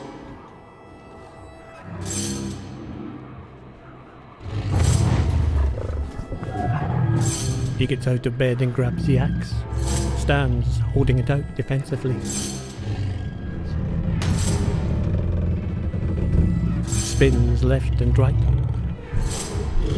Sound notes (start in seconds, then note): 4.3 more growling and grunting